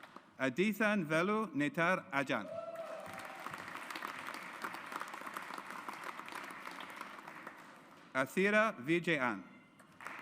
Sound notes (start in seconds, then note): 2.7 audience applauds